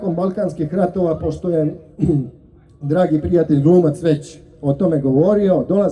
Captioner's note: coughs